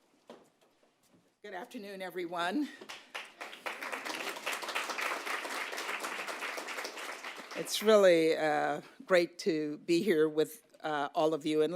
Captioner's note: applause